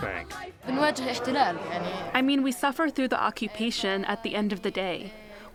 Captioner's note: through translator